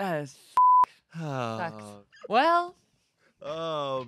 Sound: beep

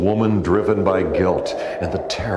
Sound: wind howling

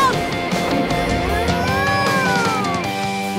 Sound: mooing

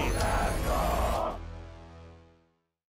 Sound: chanting

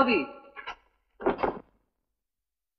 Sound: door closes

